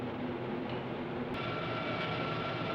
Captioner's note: machines hum